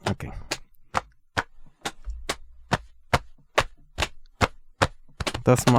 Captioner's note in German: rhythmische Klopfgeräusche